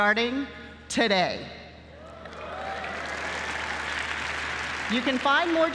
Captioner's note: applause